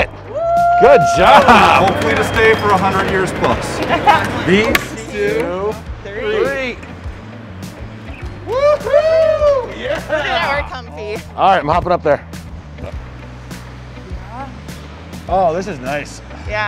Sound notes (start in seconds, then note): 0.2 cheers; 8.4 cheer